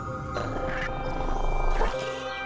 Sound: digital noises

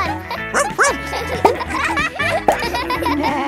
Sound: barks

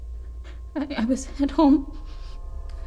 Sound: stammers

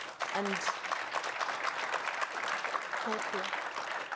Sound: audience applauding

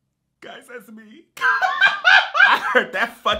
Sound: laughs

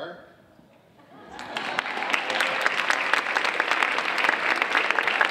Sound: audience applauding

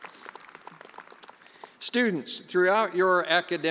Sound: attendees cheering and applauding

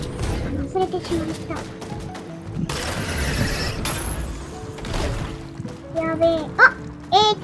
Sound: gunshot

